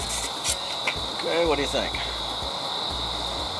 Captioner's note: man's voice